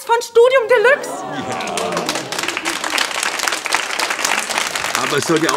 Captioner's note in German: begeisterter Applaus